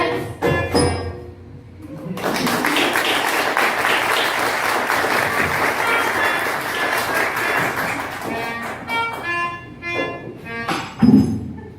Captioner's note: applause; comical music; laughter